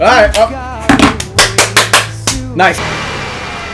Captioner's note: puts down controller and claps